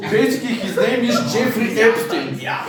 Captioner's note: laughing